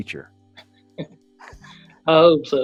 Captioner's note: both laughing